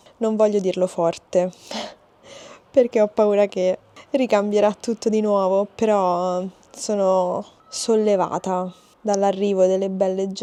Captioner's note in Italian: sbuffare